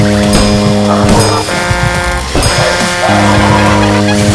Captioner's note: truck horn; clock bell strike